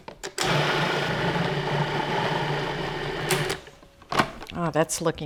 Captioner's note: food processor whirs